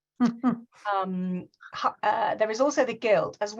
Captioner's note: giggles